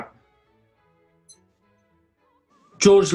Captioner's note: stopwatch beeps off